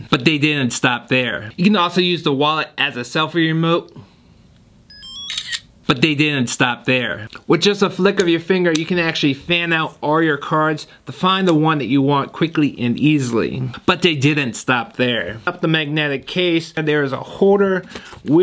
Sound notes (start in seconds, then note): 4.9 phone beeps; 5.2 shutter clicks